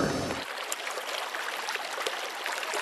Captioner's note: water flowing